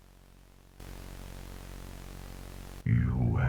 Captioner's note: Static